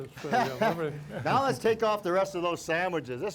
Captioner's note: chuckles